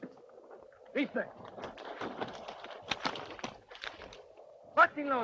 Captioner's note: Red Hawk speaks Spanish